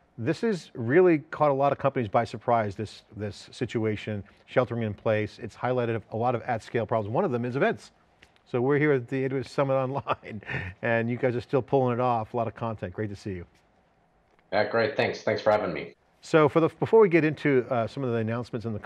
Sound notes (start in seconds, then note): 9.7 chuckling